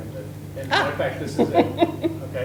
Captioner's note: laughs